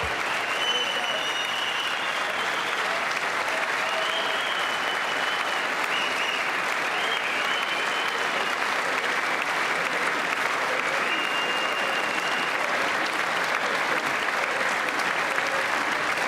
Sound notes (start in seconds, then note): 5.1 applause